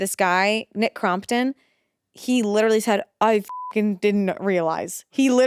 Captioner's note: beep